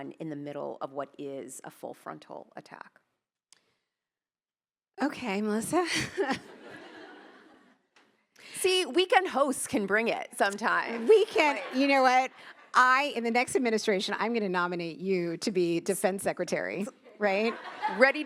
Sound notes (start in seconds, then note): 5.8 laughs; 5.9 attendees laughing